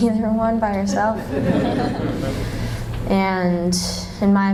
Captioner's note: laughter